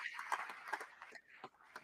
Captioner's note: applause